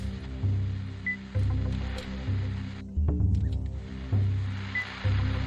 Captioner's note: equipment beeping